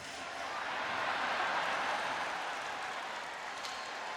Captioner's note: crowd cheering